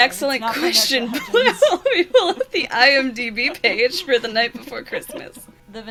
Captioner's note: laughs